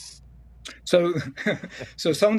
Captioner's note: chuckling